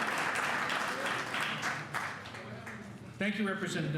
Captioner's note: applause